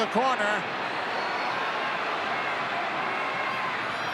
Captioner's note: crowd yelling